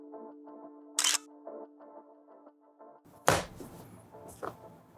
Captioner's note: camera shutter clicks